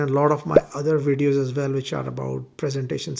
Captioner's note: bubble popping